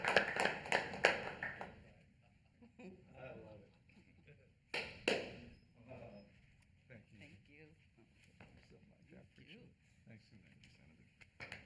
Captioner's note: applause